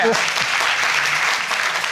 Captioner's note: applause